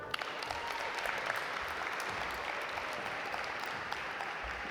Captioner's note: audience applaud